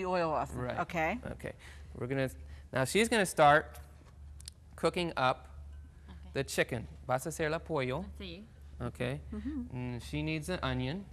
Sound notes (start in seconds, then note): 6.4 speaks in Spanish